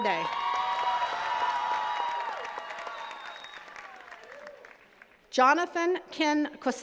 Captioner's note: attendees cheering and clapping